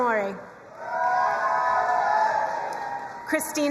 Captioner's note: crowd cheering and applauding